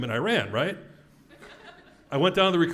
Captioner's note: laugh